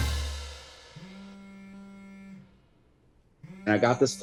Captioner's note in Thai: เสียงโทรศัพท์สั่น